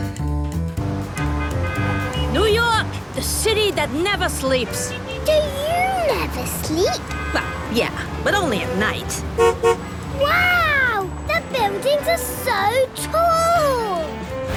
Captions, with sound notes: (upbeat music, honking) New York! The city that never sleeps! - Do you never sleep? - Well, yeah. But only at night. (honks) - Wow! The buildings are so tall!